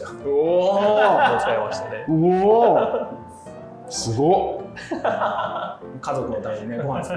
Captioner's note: laughing